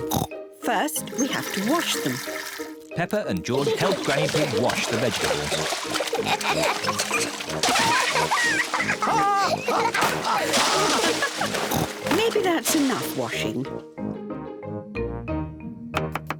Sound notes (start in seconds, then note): 0.0 oinks; 6.1 both laugh; 9.1 laughs